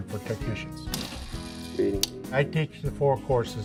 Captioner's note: voltage tester buzzing